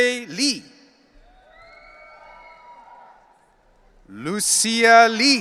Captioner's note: audience cheering